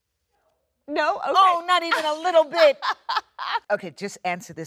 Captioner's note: Jennifer laughs